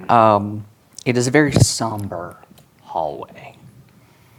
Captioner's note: none